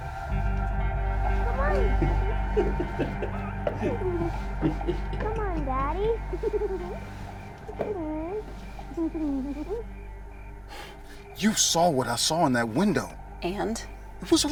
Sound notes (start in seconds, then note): 1.7 girl chattering; 1.8 Nathan laughing; 9.0 giggles